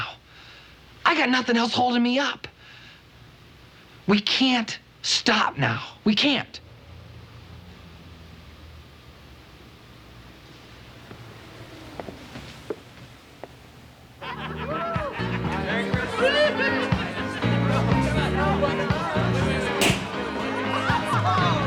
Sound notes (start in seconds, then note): 14.2 laughter; 19.8 balloon pops